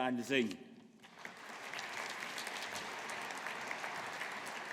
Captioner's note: audience applauding